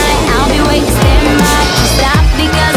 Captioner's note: biff!